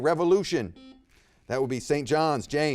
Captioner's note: buzzer beeps